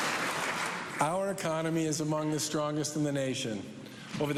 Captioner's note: cheers and applause